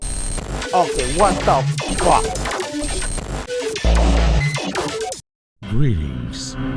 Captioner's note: computer glitches again; glitches